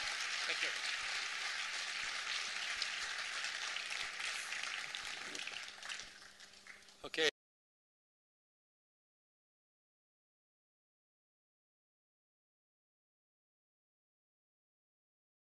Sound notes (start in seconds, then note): 2.0 continuing applause